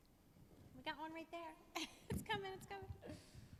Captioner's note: laughs